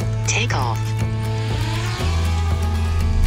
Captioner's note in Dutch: Drone